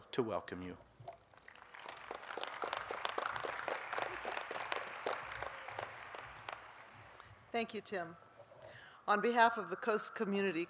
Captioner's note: applause